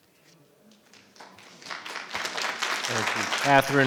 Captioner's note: audience applauding